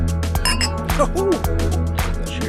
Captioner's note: clink